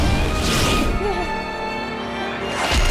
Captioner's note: groaning